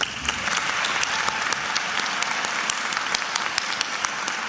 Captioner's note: attendees applauding